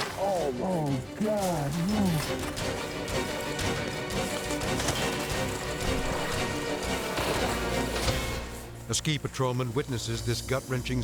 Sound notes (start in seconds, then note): 3.4 body thudding; 3.4 dramatic music continues